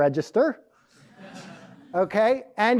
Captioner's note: crowd laughs